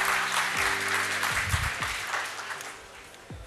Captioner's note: applause